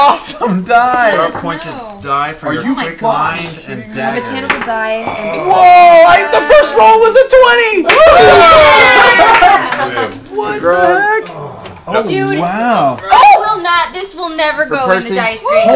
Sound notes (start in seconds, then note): 7.8 cheering